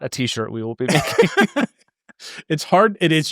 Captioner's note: laughing